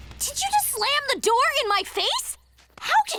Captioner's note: none